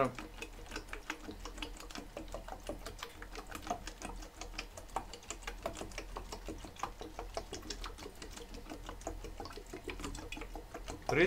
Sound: water gurgling sound

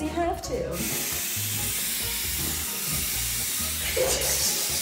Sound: splashing

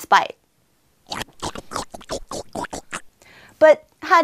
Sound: slurp, slurp, slurp

